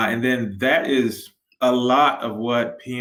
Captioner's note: none